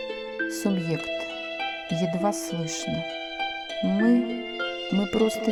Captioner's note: in a faraway voice